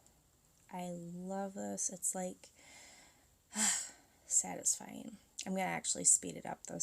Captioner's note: sighs in contentment